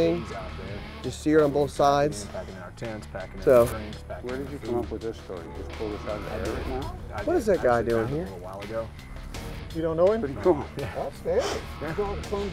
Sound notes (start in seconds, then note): 4.0 voiceover; 12.3 voiceover